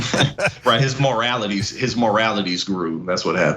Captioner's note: laugh